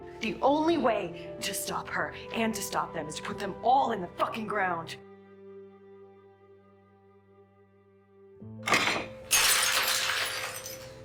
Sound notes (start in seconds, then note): 0.4 voiceover; 8.6 June breaks a glass plate